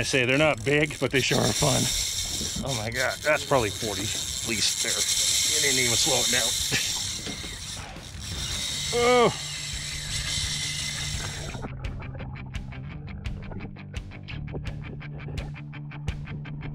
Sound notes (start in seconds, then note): 7.8 reel spinning; 11.2 grunting; 11.8 reel spinning; 13.4 underwater gurgling